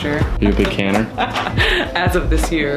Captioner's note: laughing